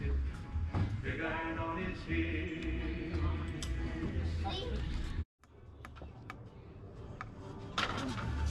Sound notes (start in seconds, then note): 5.5 hammering